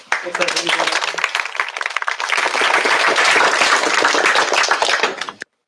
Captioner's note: applause